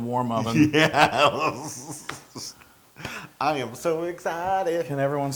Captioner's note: laugh